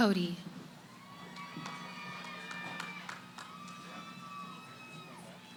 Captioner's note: cheering